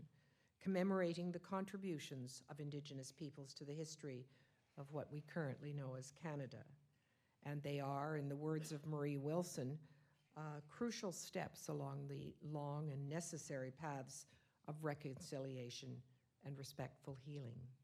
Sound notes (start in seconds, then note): none